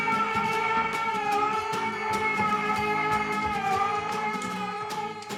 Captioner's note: dramatic music; Isaac continues yelling